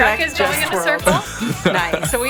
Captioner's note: chuckling